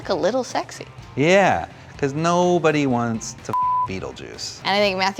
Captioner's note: beep